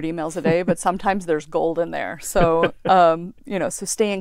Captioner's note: laugh